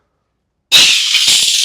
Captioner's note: crash